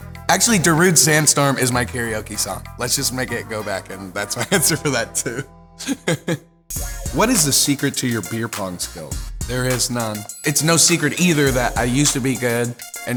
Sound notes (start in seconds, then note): 5.8 laughs; 6.9 slow music